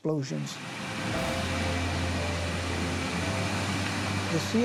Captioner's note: ice crashing